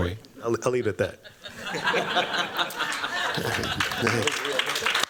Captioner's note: all laughing; applause